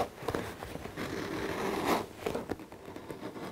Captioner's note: scratching sound